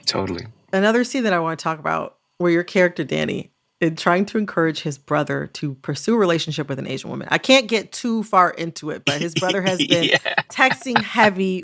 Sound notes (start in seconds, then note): 9.0 laughter